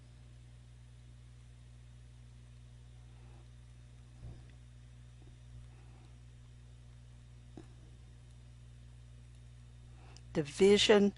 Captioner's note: silent